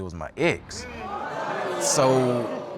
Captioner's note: audience exclaiming